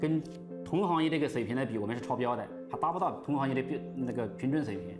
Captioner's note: speaking Chinese